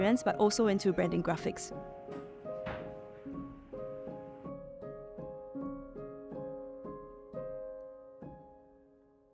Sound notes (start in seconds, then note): 2.2 gentle music; 2.2 rattling; 3.9 gentle music